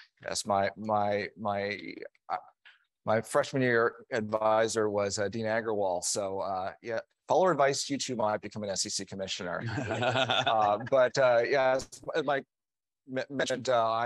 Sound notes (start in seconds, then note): 9.6 chuckling